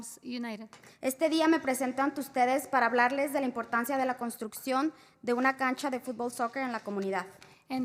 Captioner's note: spanish